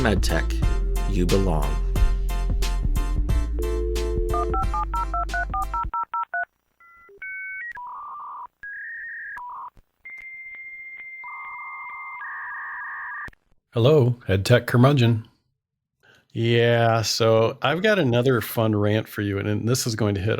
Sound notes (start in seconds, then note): 8.6 phone dial noise